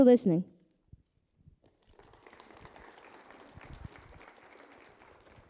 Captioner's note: applause